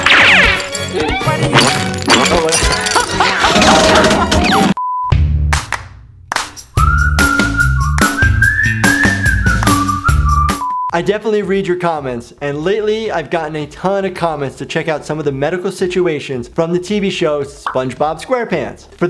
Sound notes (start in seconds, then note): 2.8 laughter; 6.3 upbeat music